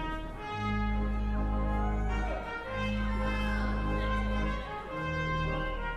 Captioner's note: cheering